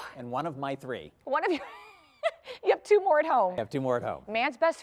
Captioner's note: laughter